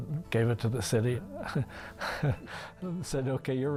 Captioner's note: laughing